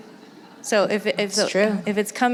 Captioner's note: laughter